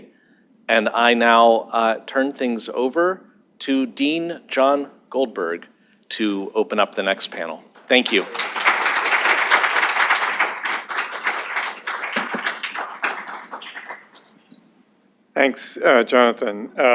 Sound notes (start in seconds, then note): 7.8 applause